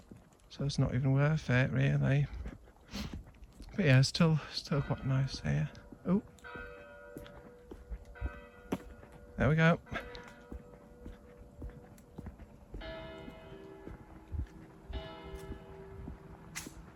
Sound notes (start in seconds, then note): 2.8 sniff; 6.4 church bell 1x: quarter past; 7.4 church bell 2x: half past; 8.0 church bell 3x: quarter; 12.7 church bell: 01:00; 14.7 church bell: 02:00